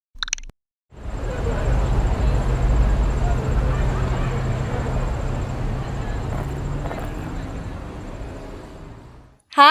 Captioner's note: crowd murmuring noises